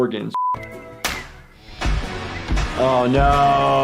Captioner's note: beep; bam